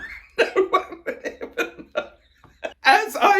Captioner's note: laughing